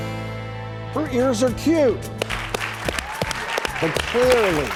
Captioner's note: applause